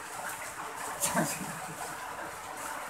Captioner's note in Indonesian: tertawa